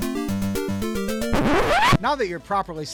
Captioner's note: record Scratch SFX